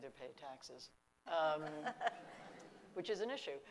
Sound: laughing

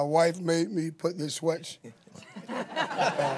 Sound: laughter

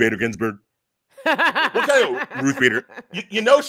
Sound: laughs

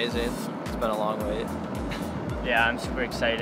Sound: laughs

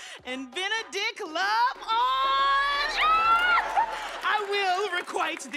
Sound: squeals

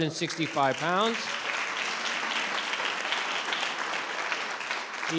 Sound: all clapping

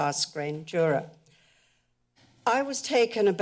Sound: pause

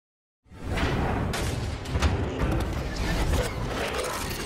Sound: electronic noises

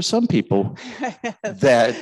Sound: woman chuckling

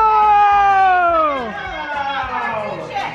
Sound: yelling

